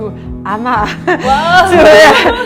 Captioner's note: laugh